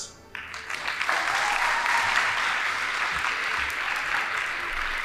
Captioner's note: audience applauding